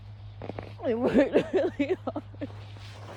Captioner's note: gulps; sobs